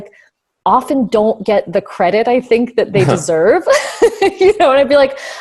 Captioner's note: laughs